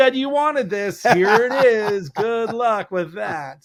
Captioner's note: laughs